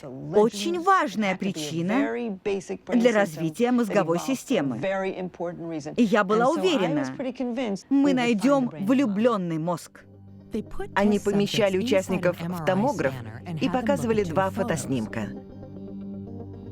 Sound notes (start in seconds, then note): none